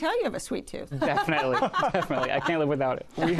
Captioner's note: laughter